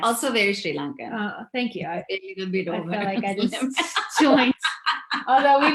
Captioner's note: laughs